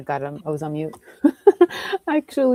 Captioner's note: laughs